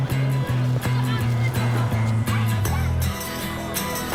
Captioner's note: people chattering